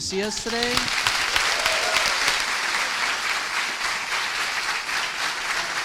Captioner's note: students cheering and applauding